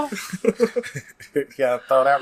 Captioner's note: laughs